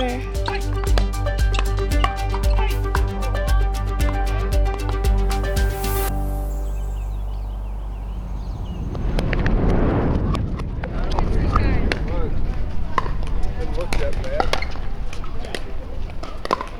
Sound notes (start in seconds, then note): 7.6 audio fast-forwarding; 13.6 court noises